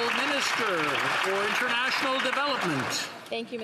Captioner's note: some Applause